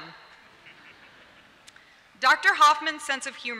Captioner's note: laughter